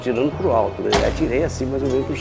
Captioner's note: shot